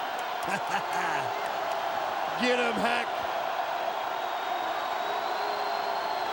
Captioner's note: crowd cheering; cackles